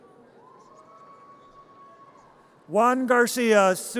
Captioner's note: audience cheers